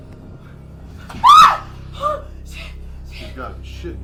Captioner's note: screaming